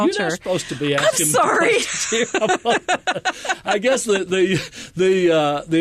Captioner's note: laughter